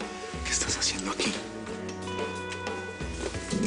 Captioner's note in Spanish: Susurra